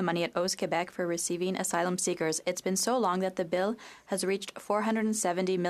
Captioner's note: speaking French